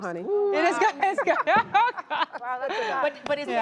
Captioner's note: laughs